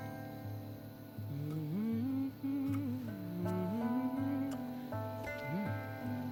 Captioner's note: humming